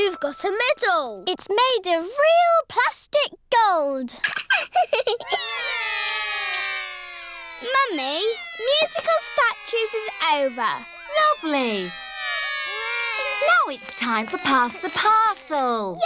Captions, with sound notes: You've got a medal. It's made of real plastic gold. (LAUGHS) (ALL CRY) Mummy, musical statues is over. Lovely. Now it's time for pass the parcel.